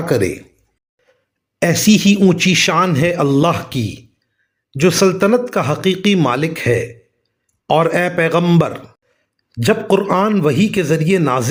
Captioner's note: reciting